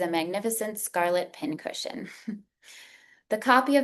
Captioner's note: chuckles